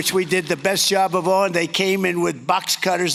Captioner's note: applause